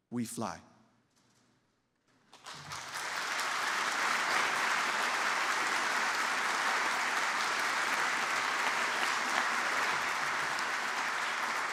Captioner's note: applause